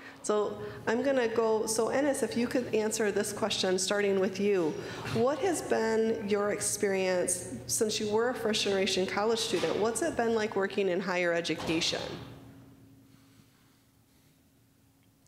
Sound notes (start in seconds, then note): none